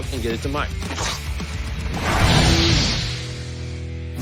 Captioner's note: scoffs